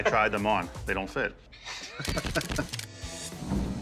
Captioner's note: laughs